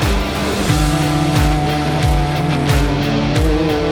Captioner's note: engine Roaring